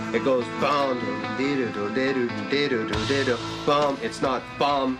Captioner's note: humming melody